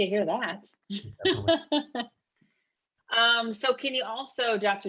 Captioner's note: laughing